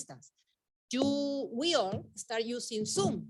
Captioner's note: mic thudding